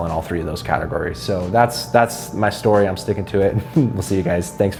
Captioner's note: chuckles